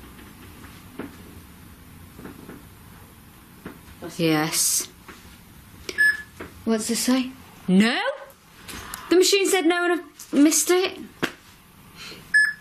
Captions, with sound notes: Yes. (loud beeping) What's it say? No? The machine said no and I missed it.